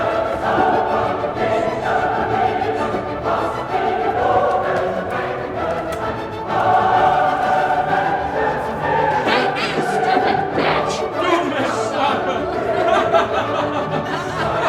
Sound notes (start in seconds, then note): 10.8 speaking German; 12.5 Nazis laughing; 14.5 Ginger laughing